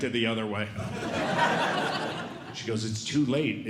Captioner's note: audience Laughing